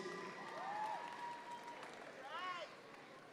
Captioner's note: audience members cheer